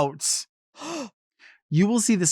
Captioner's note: gasps